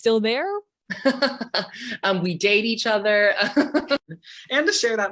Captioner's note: laughing